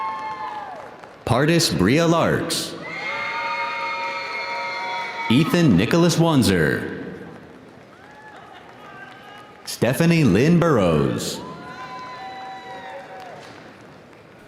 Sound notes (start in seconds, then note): 6.6 audience applauding; 7.1 audience cheering